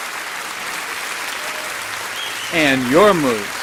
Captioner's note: applause